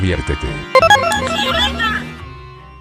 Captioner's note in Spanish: sonidos de teletransportación